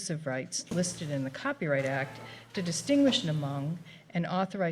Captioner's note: door squeaks